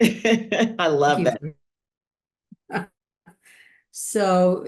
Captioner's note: chuckles